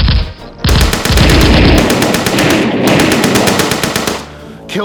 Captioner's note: gunfire rattling